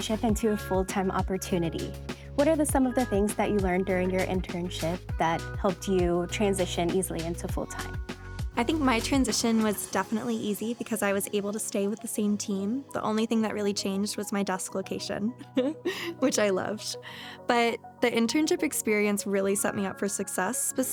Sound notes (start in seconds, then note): 15.4 laughs